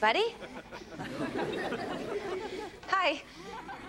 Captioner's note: audience laughs